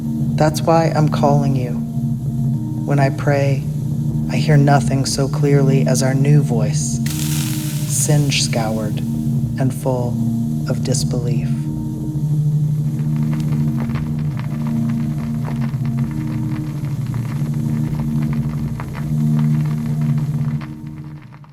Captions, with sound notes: that's why I'm calling you - when I pray I hear nothing so clearly as our new voice singe-scoured and full [sound of singed thread] of disbelief - [sound of vinyl record crackling over fading droney melody]